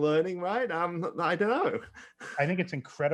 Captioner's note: chuckles